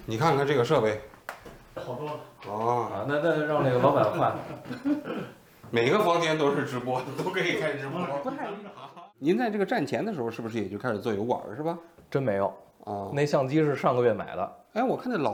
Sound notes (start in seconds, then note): 3.8 laugh